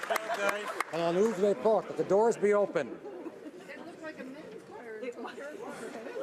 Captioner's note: applause